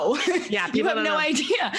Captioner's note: laughing